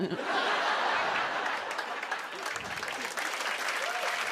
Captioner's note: laughter; applause